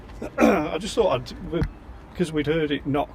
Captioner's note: clears throat